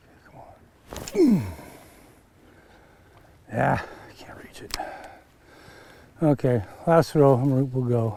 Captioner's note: grunting